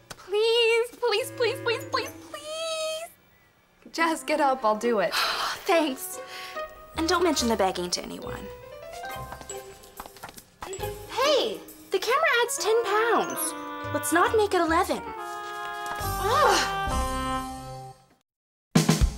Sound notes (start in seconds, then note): 5.1 sighs